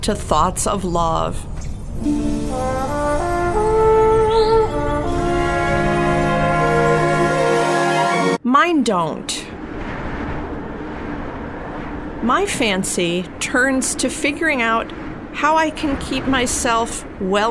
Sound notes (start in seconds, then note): 8.2 music halts; 9.7 gusty winds blowing